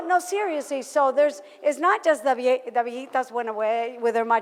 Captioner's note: foreign language